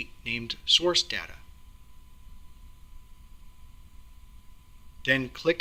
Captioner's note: pause